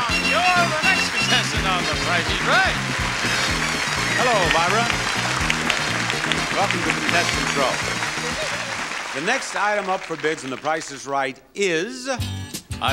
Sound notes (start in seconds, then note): 3.0 crowd clapping; 5.2 crowd clapping continues